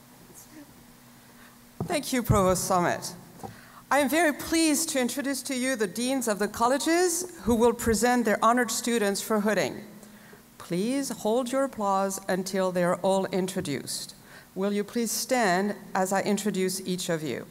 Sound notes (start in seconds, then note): none